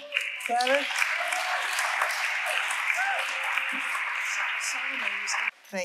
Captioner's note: audience applauding